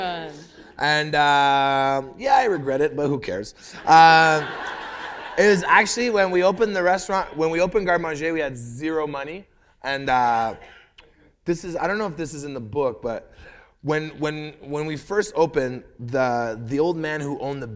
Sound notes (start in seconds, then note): 0.0 laughter; 3.8 laughter